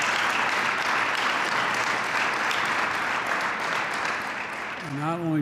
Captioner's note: applause